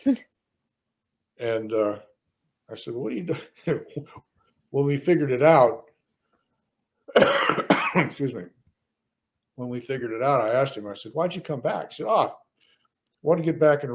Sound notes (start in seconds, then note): 3.2 stoner laughs; 3.2 laughs; 7.0 coughs